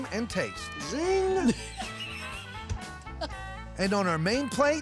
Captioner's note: laughter